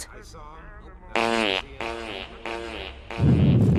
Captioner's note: really fucking loud fart